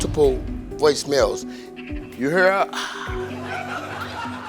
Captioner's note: moans; audience laughs